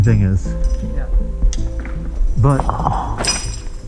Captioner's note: beep; quietly; metallic clanking; rocks scrapes and thumps